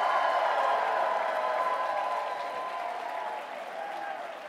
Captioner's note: louder cheering